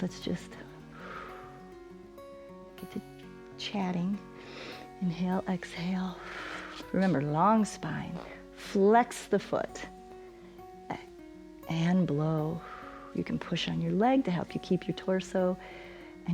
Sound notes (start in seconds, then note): 6.0 exhales; 12.6 exhales